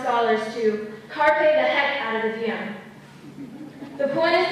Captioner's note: laughter